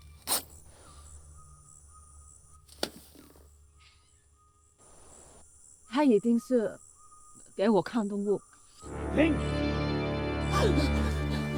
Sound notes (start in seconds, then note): 0.1 ripping; 5.9 Mandarin